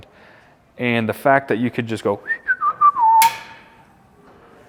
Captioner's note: whistles; burner knob clicks